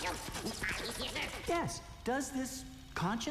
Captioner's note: babbling